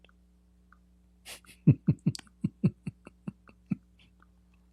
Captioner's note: Ketawa